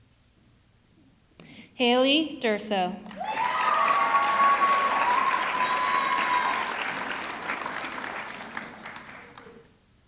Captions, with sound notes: Hailey Durso, (audience clapping) (audience cheering)